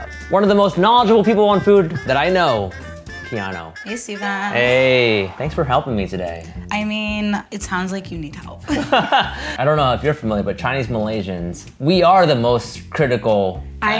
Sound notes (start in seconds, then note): 8.7 laugh